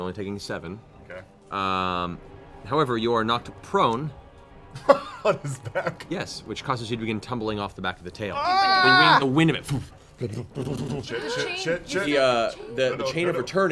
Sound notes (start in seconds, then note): 4.7 laughing; 10.1 thump thump